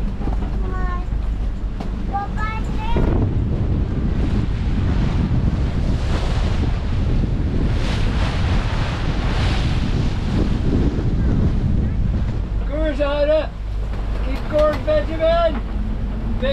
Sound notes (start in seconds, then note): 5.5 waves breaking; 5.5 wind blowing